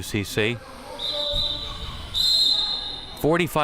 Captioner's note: whistle chirping